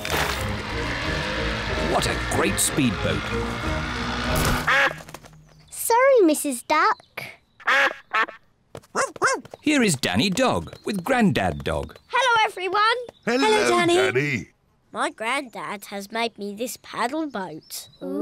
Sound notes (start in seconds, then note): 4.6 duck quacks; 7.8 quacks; 8.9 barks